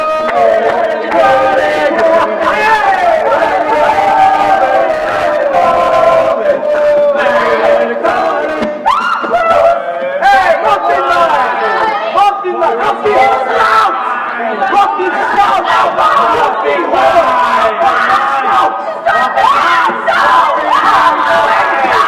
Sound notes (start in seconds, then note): 8.8 screams; 17.3 crowd jeering; 19.0 screams